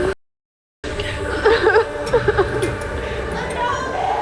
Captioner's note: crying